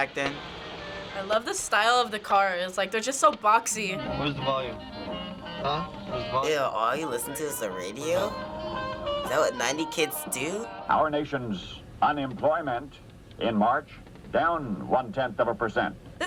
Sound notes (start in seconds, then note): 10.8 radio voice